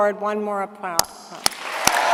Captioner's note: applause